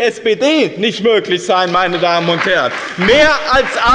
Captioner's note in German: Beifall bei dem BÜNDNIS 90/DIE GRÜNEN und der CDU